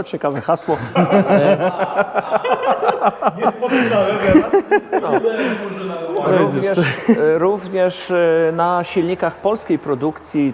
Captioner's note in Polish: śmiech